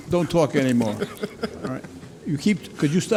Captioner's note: laughs